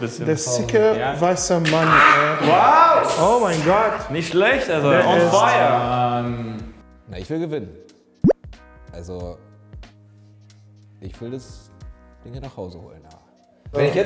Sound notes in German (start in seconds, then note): none